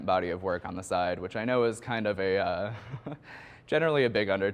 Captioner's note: chuckles